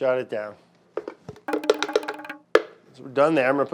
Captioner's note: lid tapping